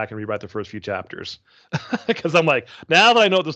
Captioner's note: chuckling